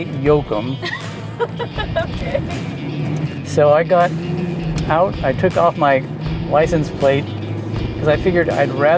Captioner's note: laughs